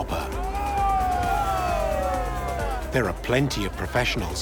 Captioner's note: men cheering